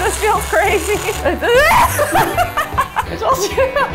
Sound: laughing, yelling

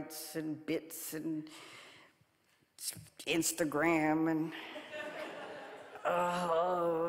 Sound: audience laughing

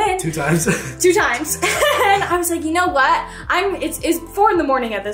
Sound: laughs; chuckles

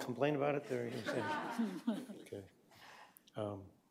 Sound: laughter

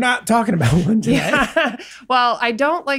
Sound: laughs

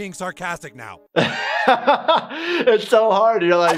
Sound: laughs

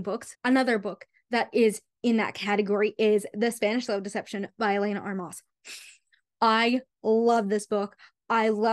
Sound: sigh

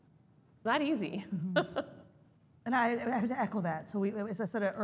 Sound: laugh

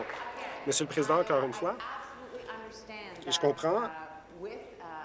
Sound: applause

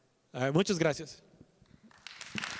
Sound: applause

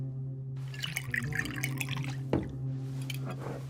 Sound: alcohol pouring

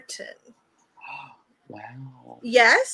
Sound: gasps

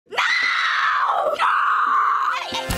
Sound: screams

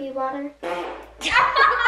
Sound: farts; laughs

